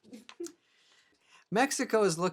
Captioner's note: woman chuckling